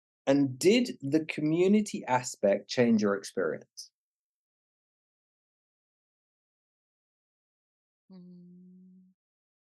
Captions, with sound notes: And did the community aspect change your experience? (silence)